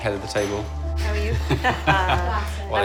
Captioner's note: laughs